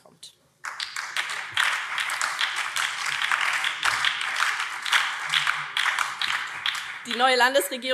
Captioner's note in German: Beifall BÜNDNIS 90/DIE GRÜNEN